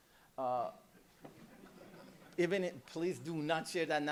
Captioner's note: chuckling